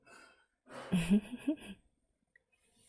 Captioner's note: laughs